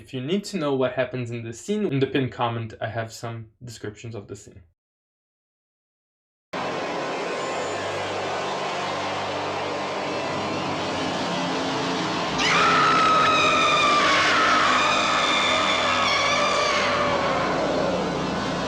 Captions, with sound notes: in the pinned comment I have some descriptions of the scene. [horror music] [loud scream]